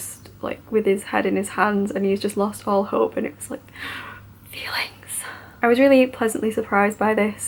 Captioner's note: gasps